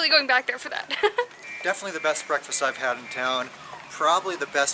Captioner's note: laughter